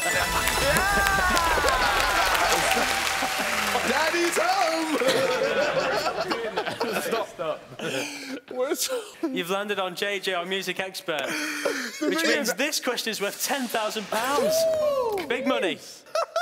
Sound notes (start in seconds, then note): 0.0 applauding; 0.1 chiming; 4.9 laughing; 14.2 cheering